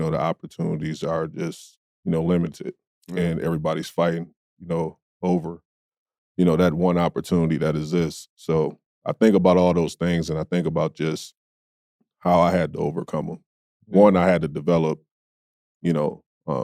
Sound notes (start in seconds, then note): none